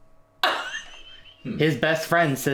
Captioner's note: laughs